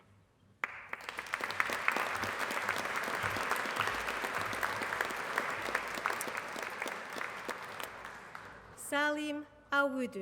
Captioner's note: applause